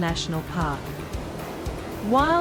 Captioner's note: waves crashing